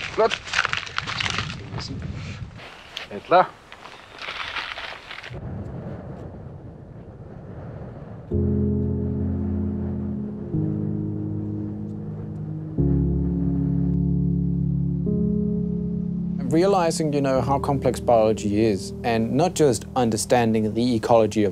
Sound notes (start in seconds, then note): 2.5 speaks Greenlandic